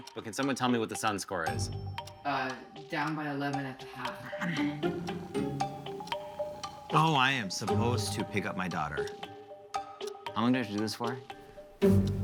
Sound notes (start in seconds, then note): 4.0 groans; 5.0 cat purring